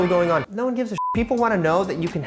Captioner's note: beep